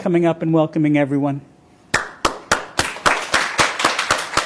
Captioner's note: applause